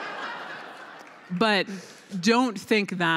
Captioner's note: laughter